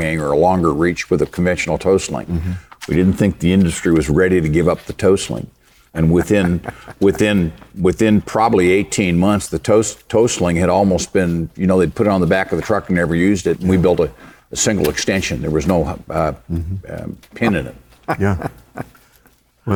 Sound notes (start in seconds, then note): 6.0 laughing; 17.9 laughing